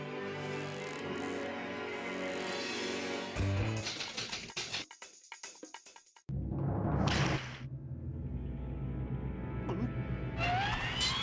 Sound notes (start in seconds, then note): 3.6 typewriter clacking